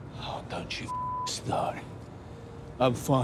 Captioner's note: beep